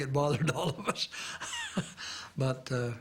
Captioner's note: chuckles